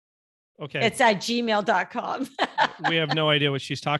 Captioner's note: laughing